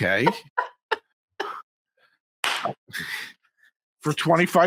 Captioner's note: laughing